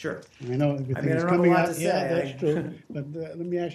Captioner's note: laughter